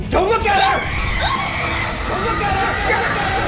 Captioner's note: screeching